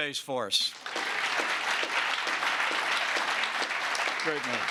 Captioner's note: applause